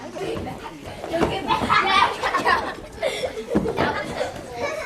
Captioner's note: student laughing